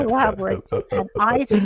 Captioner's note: laughing